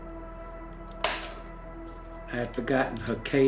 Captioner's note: calm music continues; cassette recorder clicks